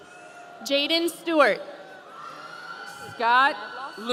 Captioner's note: audience cheering